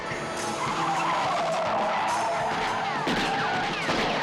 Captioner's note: gunshots firing